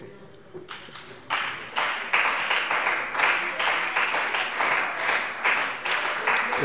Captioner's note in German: Beifall bei dem BÜNDNIS 90/DIE GRÜNEN und der CDU